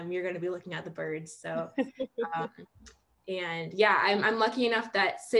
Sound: laughing

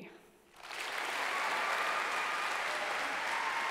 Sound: applause

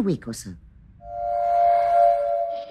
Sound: eerie whistle fades

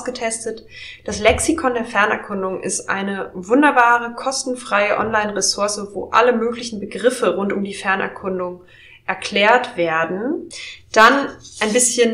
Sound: German

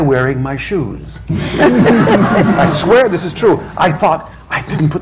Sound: laughter

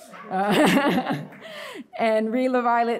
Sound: laughs

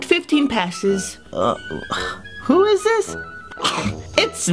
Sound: sigh; scoff

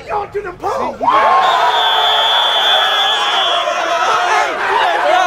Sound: cheering

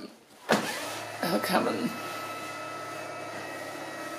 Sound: motor whirring

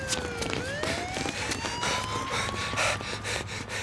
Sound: siren wailing; camerman panting

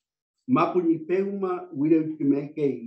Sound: non-english speech

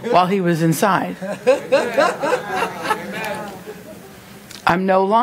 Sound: congregation laughing

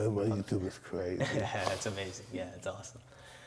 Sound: laughs

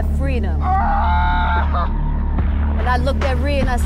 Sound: screams

